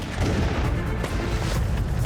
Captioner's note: gunfire